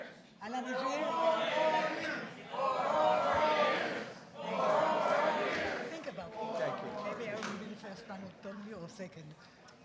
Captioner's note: audience chants "Four more years"